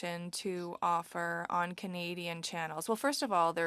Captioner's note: speaking French